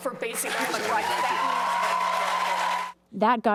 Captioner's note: cheering and applause